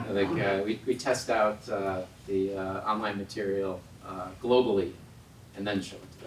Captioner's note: laugh